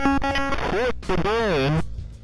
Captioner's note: glitching noise